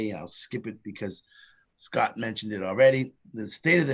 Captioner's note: none